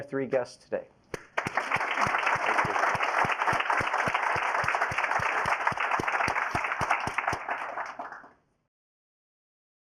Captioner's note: applause